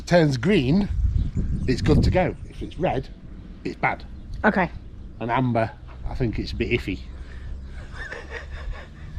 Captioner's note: laugh